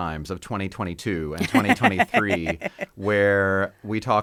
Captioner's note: laughing